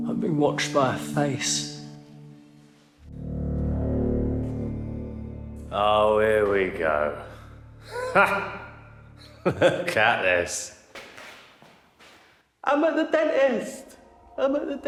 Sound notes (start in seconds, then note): 3.5 light dramatic music; 9.2 Danny laughs